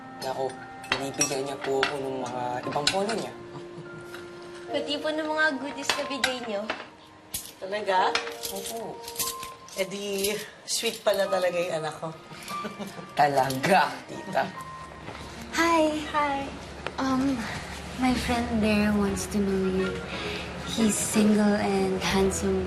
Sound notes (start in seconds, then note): 3.5 jack chuckling; 12.5 chuckling